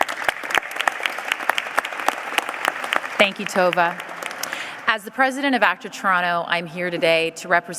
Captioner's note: applause